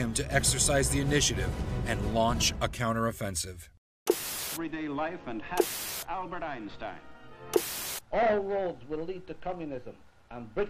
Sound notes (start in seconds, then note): 4.0 static buzzing; 7.5 static buzzing